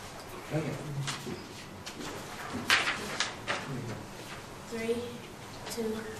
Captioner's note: shuffling of papers